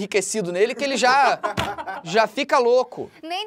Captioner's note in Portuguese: risadas